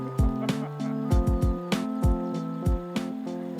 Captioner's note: laughing